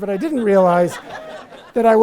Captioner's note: audience laughs